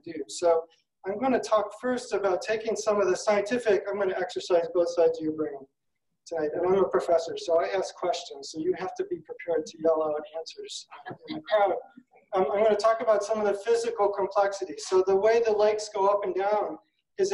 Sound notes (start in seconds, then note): 11.1 audience laughing